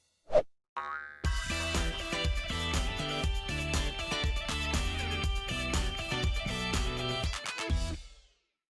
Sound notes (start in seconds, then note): 1.2 upbeat music; 1.7 bouncing ball